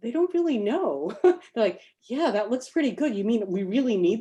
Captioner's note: laughs